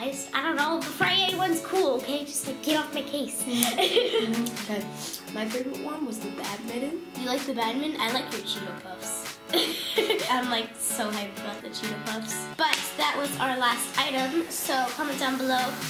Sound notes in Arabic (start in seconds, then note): 3.4 يستنشق، يضحك; 9.5 يضحك